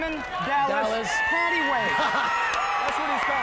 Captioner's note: laughs; hands clapping; crowd cheering